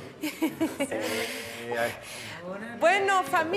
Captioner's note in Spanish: Ríe